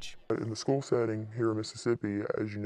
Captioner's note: voice is altered